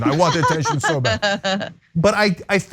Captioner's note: laugh